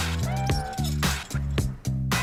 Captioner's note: meow